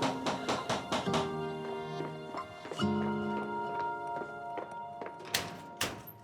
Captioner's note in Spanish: Toques en la puerta